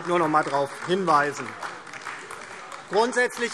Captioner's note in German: Beifall DIE LINKE, SPD und Freie Demokraten